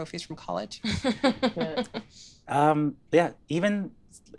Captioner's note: laughing